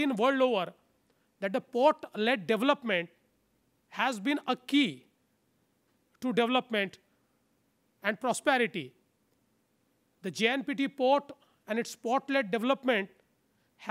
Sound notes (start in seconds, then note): none